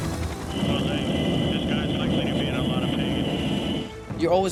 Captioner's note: helicopter whirs